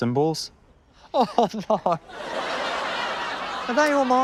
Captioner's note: laughter